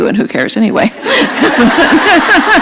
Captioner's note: laughter